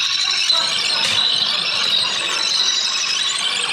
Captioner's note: tape rewinds; audience laughing